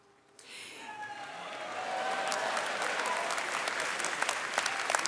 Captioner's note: audience cheering and clapping